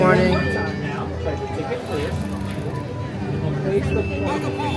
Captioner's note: Magic Band Reader chimes